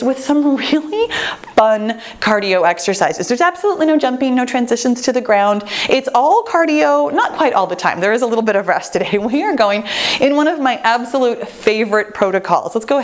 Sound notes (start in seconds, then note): none